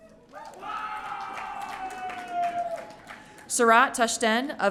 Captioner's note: audience cheering